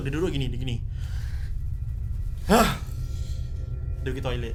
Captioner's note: scratches head and sigh loudly